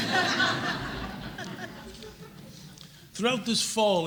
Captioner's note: laughter